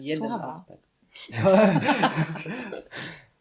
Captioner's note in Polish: śmiech